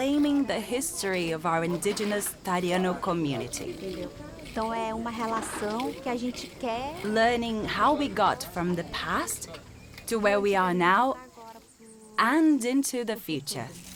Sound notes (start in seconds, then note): 3.7 speaking Portuguese